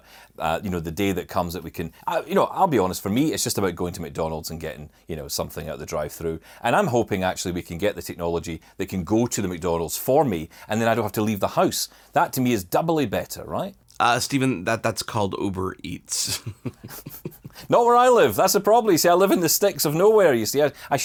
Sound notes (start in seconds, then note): 16.0 both laugh